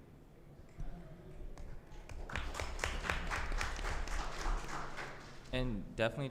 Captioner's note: applause